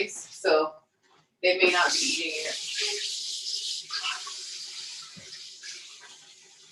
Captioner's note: water running